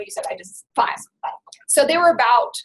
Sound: voiceover

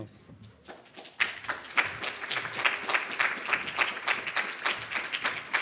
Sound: audience clapping

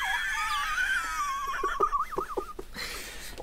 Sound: wheezing Laughter

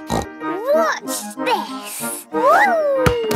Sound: snorts

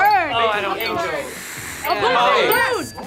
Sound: lips blowing; bell dings

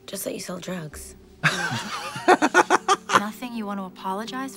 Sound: Trixie and Katya giggle

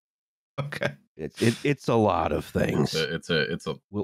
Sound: laughing slightly

